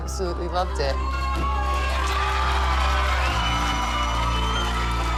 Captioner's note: cheering